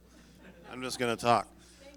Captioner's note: audience laughing